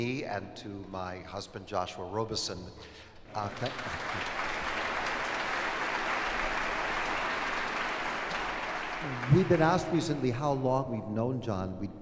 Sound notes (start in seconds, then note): 3.3 applause